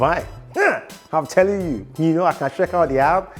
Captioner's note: grunts